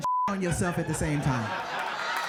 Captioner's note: audience laughing; beeping